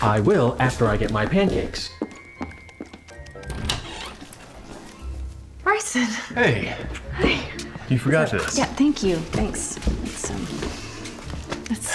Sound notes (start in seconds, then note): 0.7 footsteps, door opening